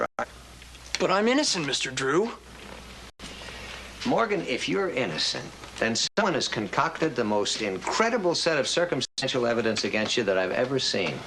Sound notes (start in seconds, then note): none